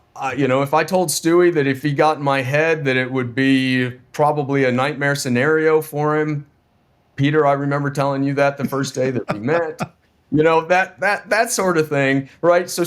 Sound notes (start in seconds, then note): 8.6 laughing